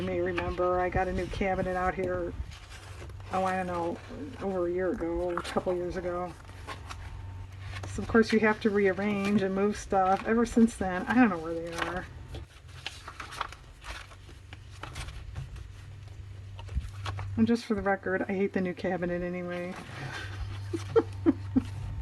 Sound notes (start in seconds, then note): 20.0 laughs